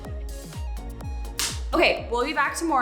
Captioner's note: hands smacking